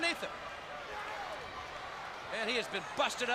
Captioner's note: crowd chatters